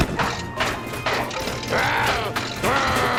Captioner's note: heater rattling; heater sputtering; growls